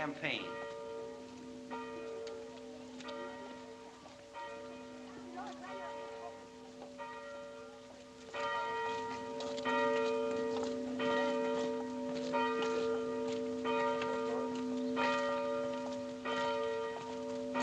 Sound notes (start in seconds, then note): 1.1 bell Continues Tolling; 7.3 bell Continues Tolling